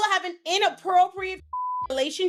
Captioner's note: beep